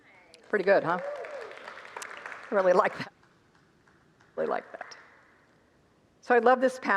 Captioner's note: congregants applaud